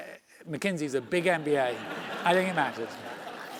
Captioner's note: laugh